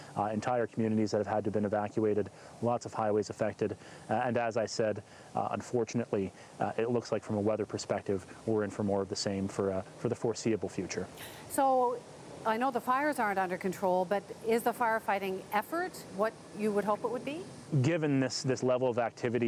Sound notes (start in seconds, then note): none